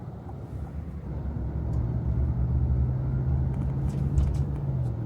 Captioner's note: blinker clicking; engine humming